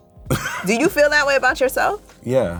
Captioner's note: laughs